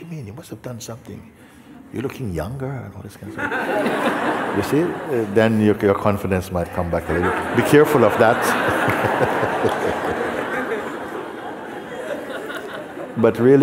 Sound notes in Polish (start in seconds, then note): 12.3 śmiech